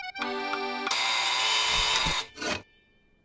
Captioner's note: buzzer sounds